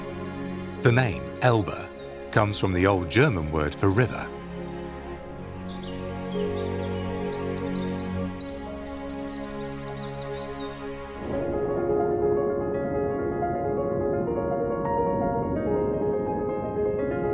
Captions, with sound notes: The name, Elbe, comes from the old German word for river. (birds singing) (gentle music)